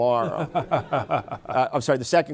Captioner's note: laughter